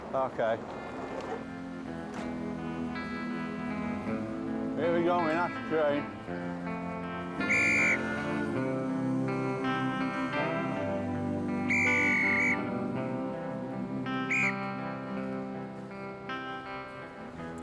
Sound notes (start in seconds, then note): 2.0 melancholic music; 7.2 blowing whistle